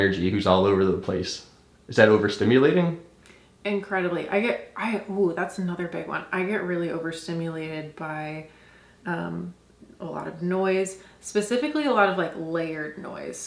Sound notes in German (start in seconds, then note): none